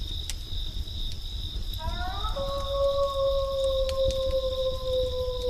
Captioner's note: wolf howling